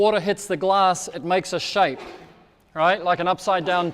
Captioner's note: person sneezing